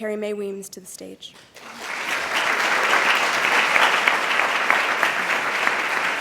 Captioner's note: applause